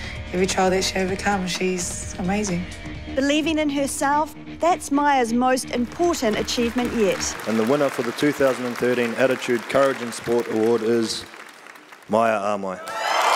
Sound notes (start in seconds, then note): 7.4 audience clapping; 12.9 audience clapping and cheering